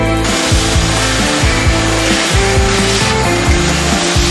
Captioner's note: vacuum surges